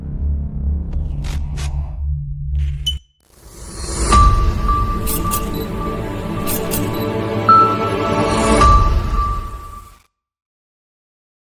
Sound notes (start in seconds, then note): 0.9 static noise; 3.6 camera lens focuses and clicks